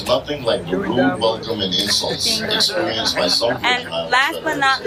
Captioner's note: chatter